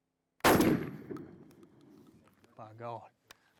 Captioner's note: gunshot